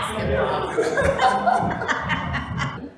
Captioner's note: laughs